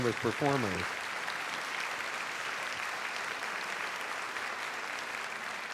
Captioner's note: audience applauding